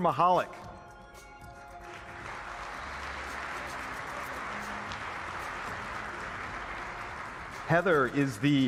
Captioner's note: applause